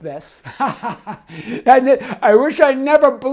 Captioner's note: laughs